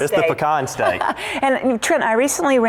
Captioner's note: laughter